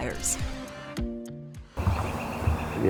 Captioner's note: upbeat music; birds chirping